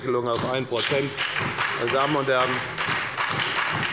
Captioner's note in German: Beifall bei der FDP und der SPD